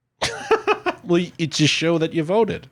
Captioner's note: laughs